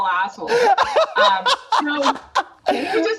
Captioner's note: laughs